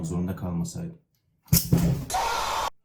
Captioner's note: microphone drops